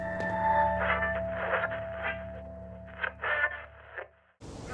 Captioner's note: radio scratching